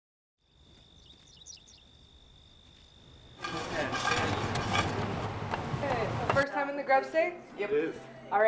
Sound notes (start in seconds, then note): 0.4 birds chirping